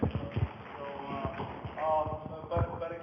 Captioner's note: microphone noise; audience applause